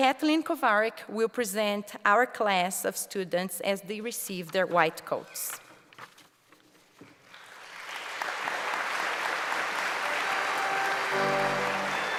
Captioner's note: applause